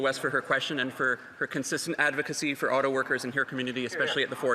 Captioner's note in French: voix de l'interprète